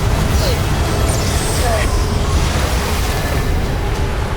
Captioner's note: powerful whoosh-crackle; grunts; sparkling whoosh; powerful whoosh-crackle